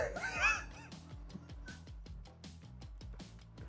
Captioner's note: laughing